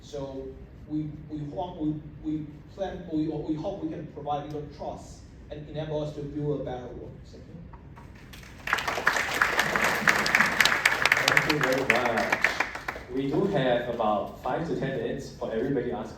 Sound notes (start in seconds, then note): 8.1 applause